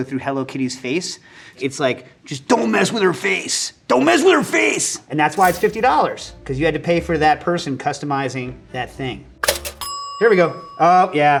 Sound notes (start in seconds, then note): 9.4 bell pings